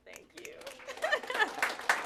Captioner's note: applause